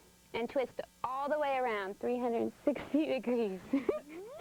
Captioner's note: giggle